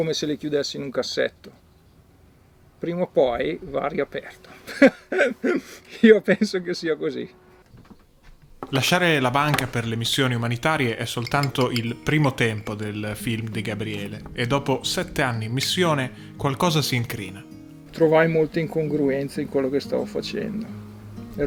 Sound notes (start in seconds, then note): 5.3 laughs